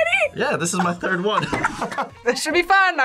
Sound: both laugh

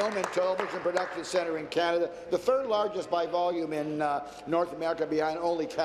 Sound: applause

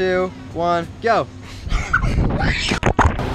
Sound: screaming lol

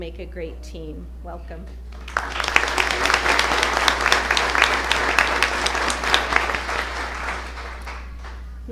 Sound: applause

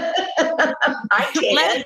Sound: laughs

